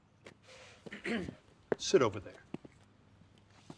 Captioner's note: Tommy clears his throat